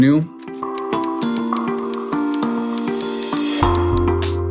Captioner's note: typing sounds